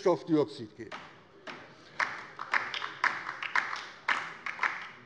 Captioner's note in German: Beifall DIE LINKE